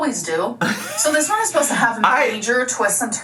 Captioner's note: laughs